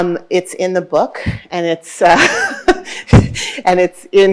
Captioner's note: laughing